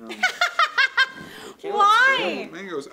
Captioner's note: laughter